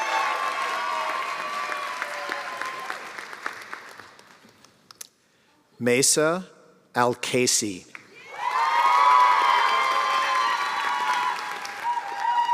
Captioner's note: cheers and applause